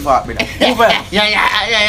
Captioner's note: laughing